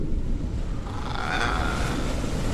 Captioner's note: the ghost breathes